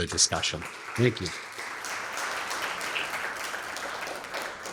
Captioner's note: applause